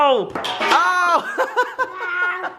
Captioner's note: crashes; laughing